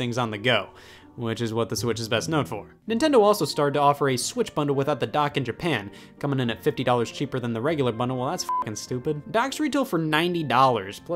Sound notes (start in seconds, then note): 8.4 beep